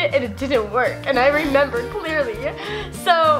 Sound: laughs

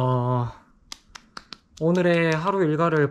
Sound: patting

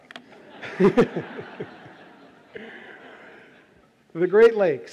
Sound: audience laughs

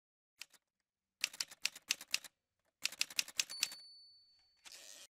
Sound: typewriter sounds

